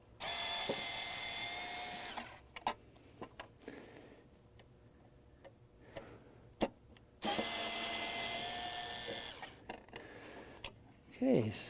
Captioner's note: electric screwdriver noises